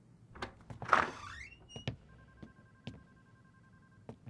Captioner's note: door creaking